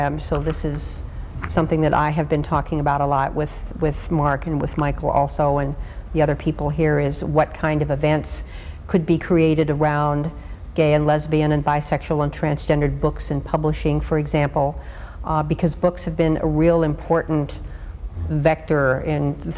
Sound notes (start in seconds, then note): none